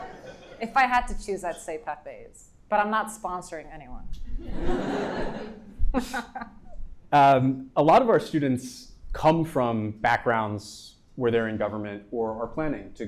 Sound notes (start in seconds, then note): 4.4 audience and Kristrun laughing